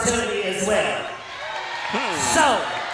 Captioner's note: audience cheers